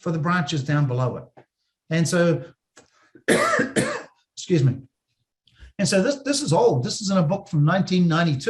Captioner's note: cough